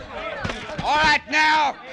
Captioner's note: chatter